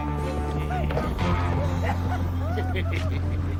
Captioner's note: men laughing